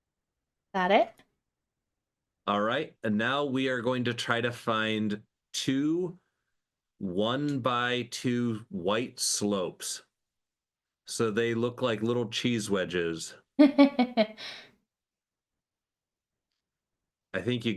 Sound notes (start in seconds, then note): 13.6 laughing